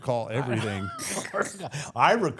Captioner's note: laughs